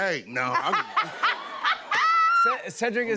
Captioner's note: laughter